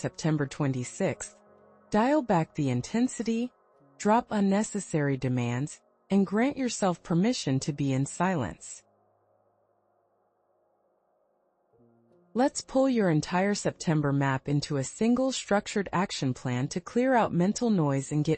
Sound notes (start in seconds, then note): 10.1 pause